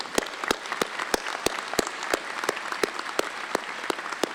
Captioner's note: applause